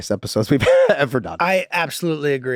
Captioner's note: Rob laughing happily